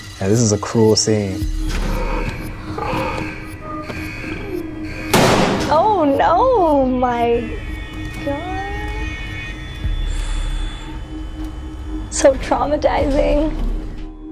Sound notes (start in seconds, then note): 0.0 eerie tense music; 1.6 animal roaring; 3.4 alarm buzzing; 5.1 loud bang